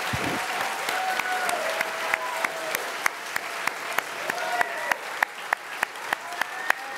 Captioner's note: crowd cheering and applauding